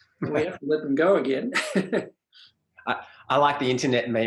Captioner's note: both laugh